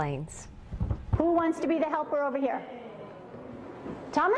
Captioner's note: voiceover